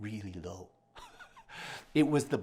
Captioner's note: chuckles